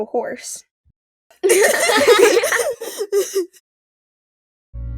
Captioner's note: everypony laughing